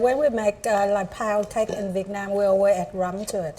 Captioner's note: speaking Vietnamese